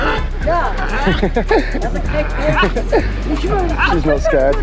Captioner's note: dog barking